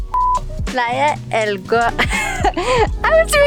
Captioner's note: laughs